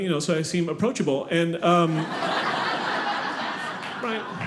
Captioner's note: audience laughing